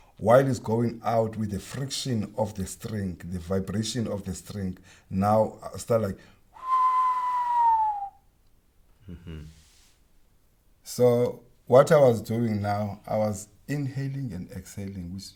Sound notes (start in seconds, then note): 6.5 whistles in descending pitch